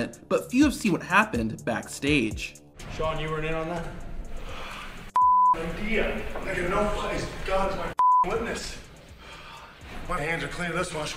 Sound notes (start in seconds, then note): 5.1 beep; 8.3 beep